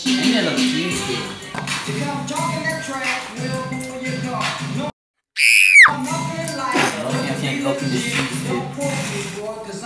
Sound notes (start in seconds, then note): 5.4 terrified bloody murder scream